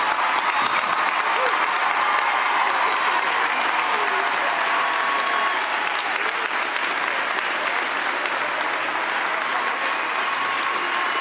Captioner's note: cheers and applause